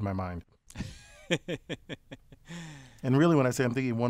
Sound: laugh

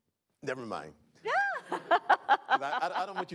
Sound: laughing

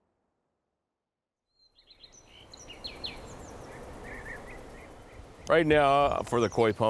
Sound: bird and wind noises

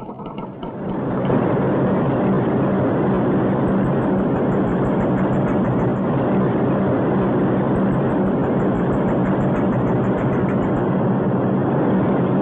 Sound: machine whirring

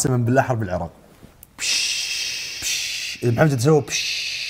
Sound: hissing

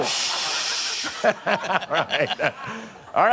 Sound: laughs

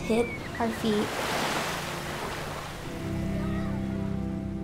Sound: water splashing; somber music

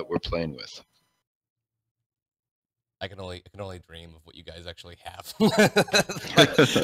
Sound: laughs

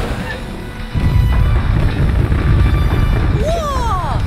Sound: sounds of fireworks in the distance

